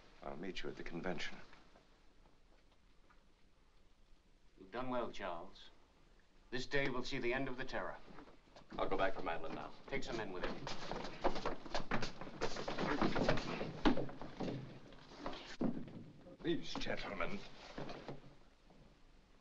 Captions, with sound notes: I'll meet you at the convention. - You've done well, Charles. This day will see the end of the terror. - I'll go back for Madelon now. - Take some men with you. (sounds of struggling) (thump) - Please, gentlemen...